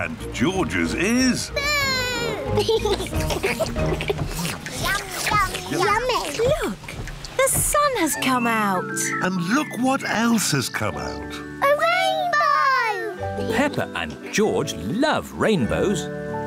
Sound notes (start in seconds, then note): 2.8 all slurp